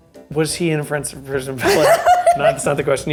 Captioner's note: laughs